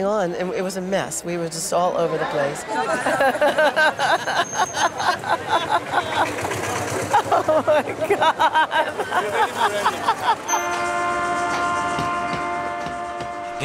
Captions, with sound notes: It was a mess. We were just all over the place. Oh my God. (Manic laughter) Oh my God. (Train siren)